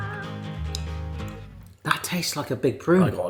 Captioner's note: smacking lips